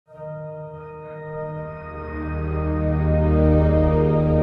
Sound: background tone

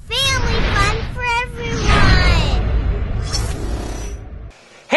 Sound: voiceover

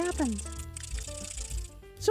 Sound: rattle shaking

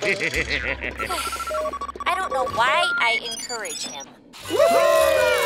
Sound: laughing; sighing

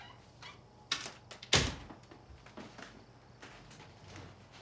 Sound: door creaks; door closes

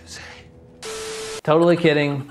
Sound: static crackles

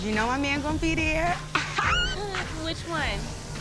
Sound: chuckles

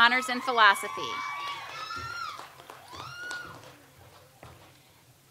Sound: audience applauds

